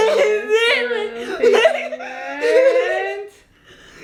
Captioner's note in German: lacht